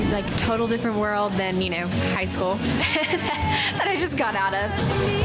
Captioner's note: laughs